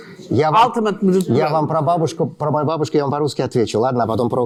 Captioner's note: speaking russian